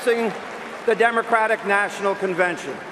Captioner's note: cheers and applause